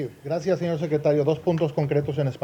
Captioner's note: spanish